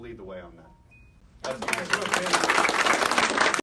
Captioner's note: applause